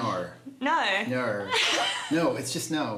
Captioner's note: laughs